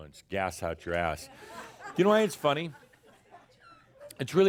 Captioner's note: more chuckles